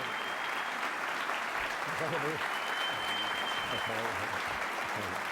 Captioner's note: applause